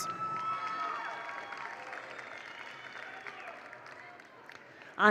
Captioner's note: attendees cheer; attendees applaud